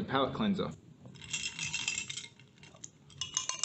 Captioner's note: spoons being stirred